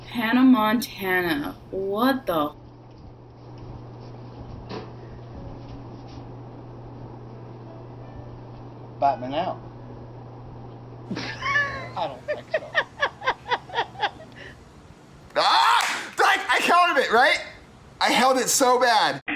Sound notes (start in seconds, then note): 11.1 person off-screen laughs